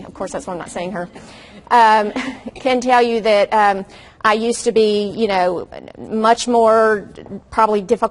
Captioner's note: audience laughs softly